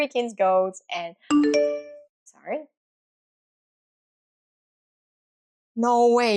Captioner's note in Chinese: 短信铃声